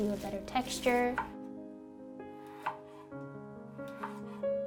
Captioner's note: knife chops